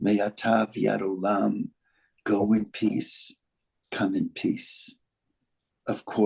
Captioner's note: speaking Hebrew